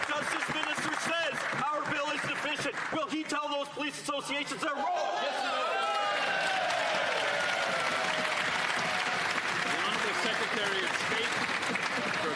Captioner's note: some Applause